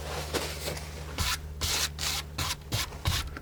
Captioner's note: scratching